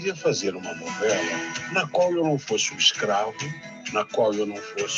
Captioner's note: speaking Portuguese